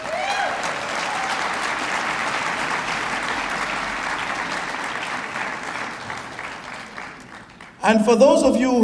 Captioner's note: applause